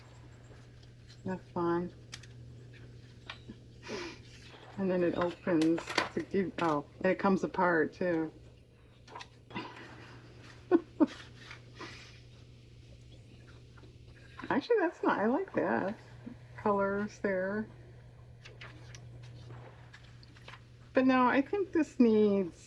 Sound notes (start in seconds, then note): 13.3 laughs